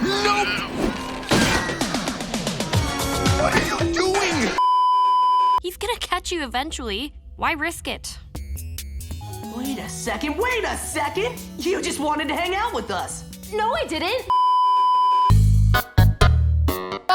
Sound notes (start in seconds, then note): 1.1 straining; 4.6 beeeeeeeeeeeep; 14.3 beeeeeeeeeeeep